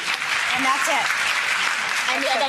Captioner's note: audience claps